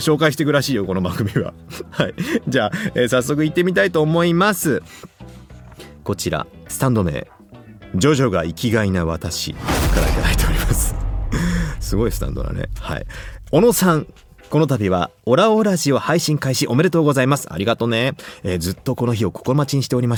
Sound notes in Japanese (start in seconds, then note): 0.1 笑い; 7.9 息をのむ音